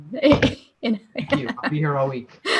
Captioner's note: laughter